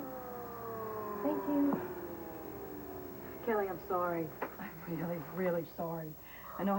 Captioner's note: vacuum cleaner quits